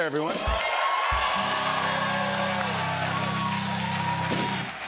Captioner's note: cheers and applause